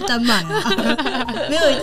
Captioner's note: laughing~~